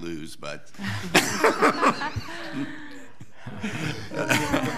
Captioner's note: laughing